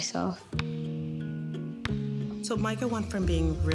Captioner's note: ball thudding